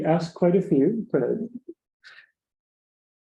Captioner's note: silence